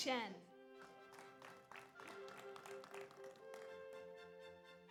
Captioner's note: audience applauds